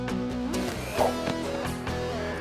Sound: whoosh!

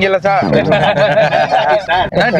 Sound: laughs

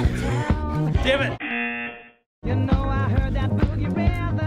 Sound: buzzer

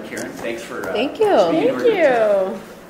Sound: voiceover

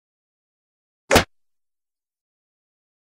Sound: sound of ninja

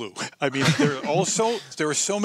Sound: laughter

